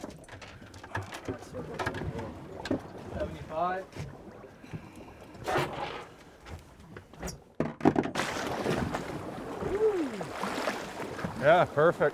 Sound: water lapping

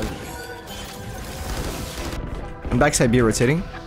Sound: guns firing

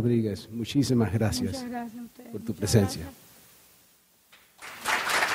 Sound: speaking in Spanish; audience applauding

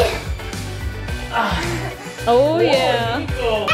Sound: grunting

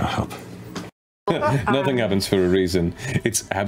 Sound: laughs

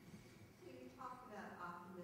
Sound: voiceover

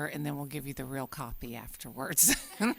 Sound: laughter

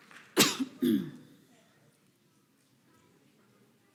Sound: coughs

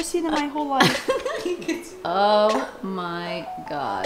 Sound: giggles

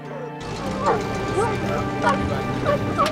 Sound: dogs barking

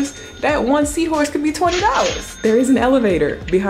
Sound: cash register dings

